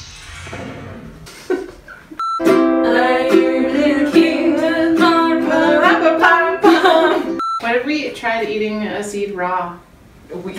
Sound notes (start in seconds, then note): 2.4 guitar music; 6.3 laughs